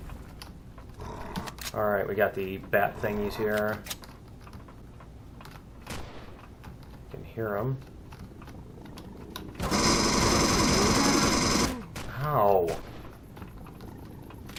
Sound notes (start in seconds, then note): 0.1 alien bats growling; 4.8 turret shots; 8.2 aliens growling; 9.6 incoming fire; 9.6 pulse rifle; 12.4 guns clicking